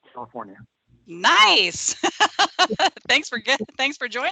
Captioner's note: laughing